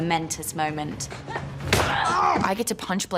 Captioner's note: yells; grunts